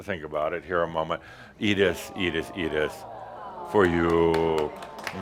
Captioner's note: audience says “Awww” as he gives her a rose corsage